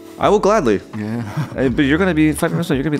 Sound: chuckles

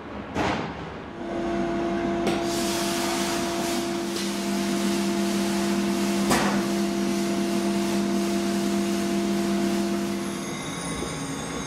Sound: sound of sandblaster

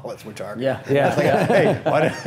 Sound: laughing

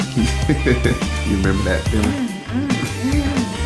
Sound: laughing

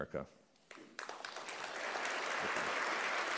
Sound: applause

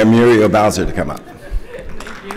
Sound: applause

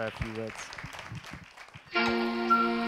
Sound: audience applauding; bright music

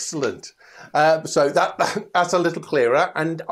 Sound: laughs

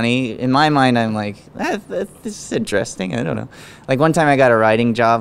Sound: murmurs

